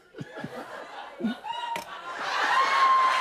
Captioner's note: laughter; cheers and applause